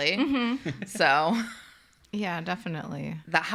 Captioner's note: chuckles